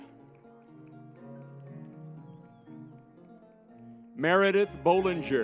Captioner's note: lively music; crowd applauding